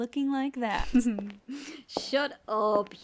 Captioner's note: snickers